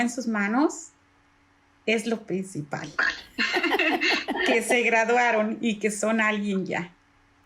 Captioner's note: laugh